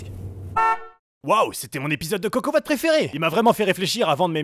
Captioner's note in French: voix off